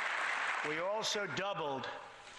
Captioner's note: applause